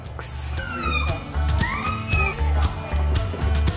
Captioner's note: squealing; upbeat music